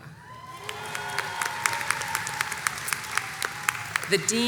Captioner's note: crowd cheers and applauds